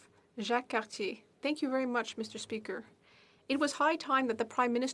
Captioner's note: speaking French